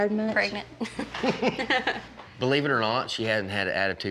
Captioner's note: laughs